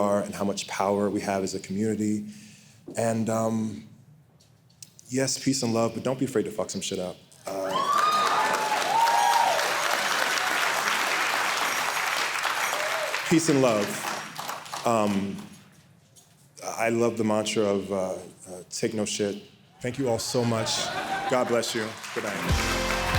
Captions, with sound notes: and how much power we have as a community, and yes, peace and love, but don't be afraid to fuck some shit up. (audience cheering) Peace and love. I love the mantra of, take no shit. Thank you all so much. God bless you, goodnight.